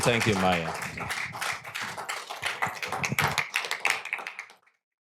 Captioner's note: applause